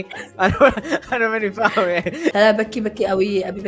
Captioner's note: laughs